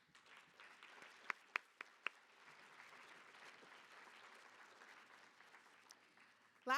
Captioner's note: applause